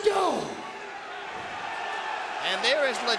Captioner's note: crowd exclaiming